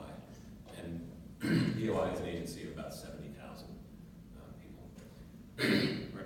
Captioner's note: cough